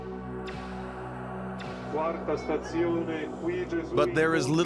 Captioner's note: man talking in native language